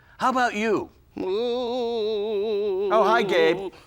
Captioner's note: ghostly moaning